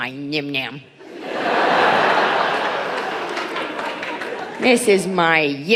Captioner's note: audience laughing